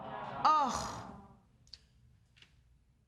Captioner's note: audience groaning